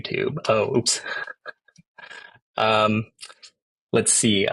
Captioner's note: chuckles